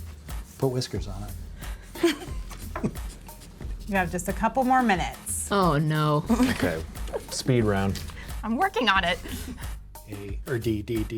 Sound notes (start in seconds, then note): 1.9 laughs; 2.3 soft music; 6.2 chuckles; 9.0 soft music